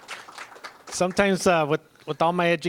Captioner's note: applause